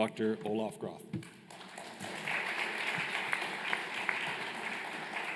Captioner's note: applause